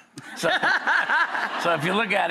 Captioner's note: laughing